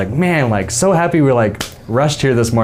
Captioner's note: clapping